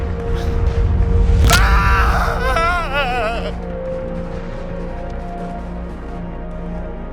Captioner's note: breath trembling; bone cracking; screams